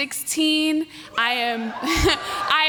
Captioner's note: cheers